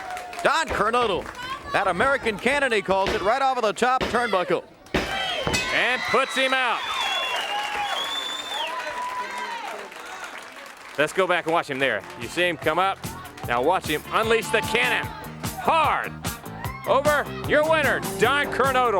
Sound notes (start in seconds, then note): 3.3 bell ringing; 4.9 crowd cheering